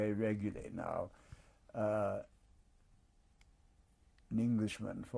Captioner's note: pauses for 3 seconds